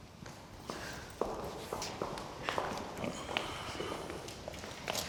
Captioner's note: footsteps approaching